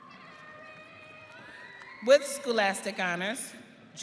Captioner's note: audience cheering